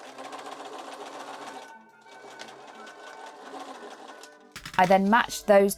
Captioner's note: machine whirring